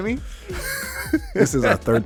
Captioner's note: laughing